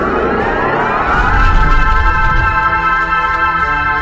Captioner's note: ground rumbles